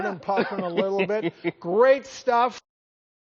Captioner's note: chuckles